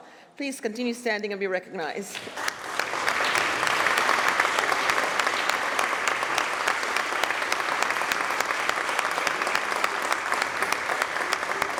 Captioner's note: applause